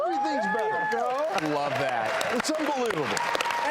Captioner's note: audience cheers